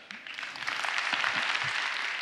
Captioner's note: applause